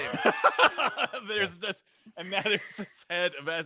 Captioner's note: laughs